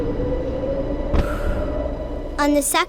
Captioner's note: whirring; puff of air